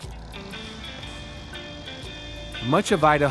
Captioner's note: gentle music; plane engine roaring